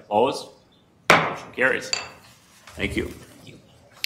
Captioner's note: gavel bangs